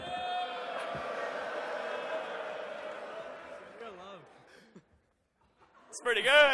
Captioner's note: audience boos